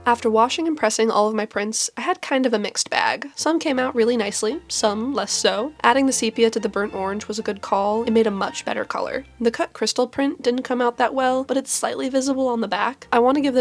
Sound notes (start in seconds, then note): none